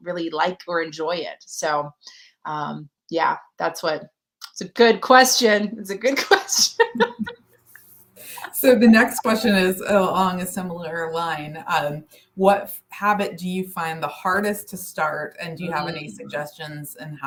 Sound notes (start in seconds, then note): 6.2 laughter